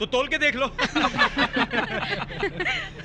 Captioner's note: all Laughing